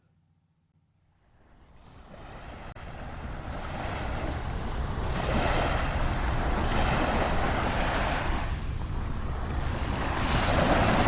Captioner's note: waves crashing